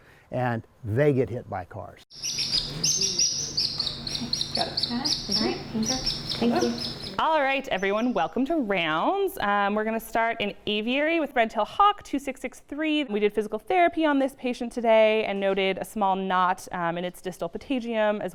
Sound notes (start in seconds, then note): 2.1 bird chirps